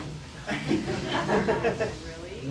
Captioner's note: laughter